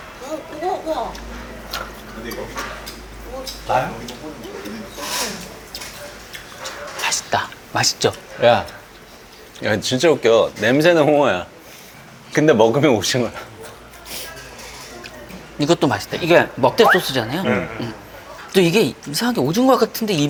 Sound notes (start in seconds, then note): 0.8 chewing away